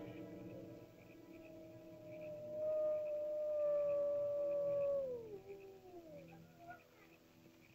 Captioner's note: ominous music; animal howls